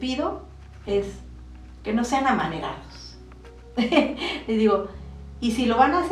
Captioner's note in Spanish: risa